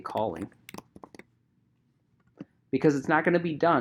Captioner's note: keyboard clicking